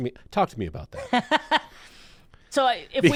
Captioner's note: laughing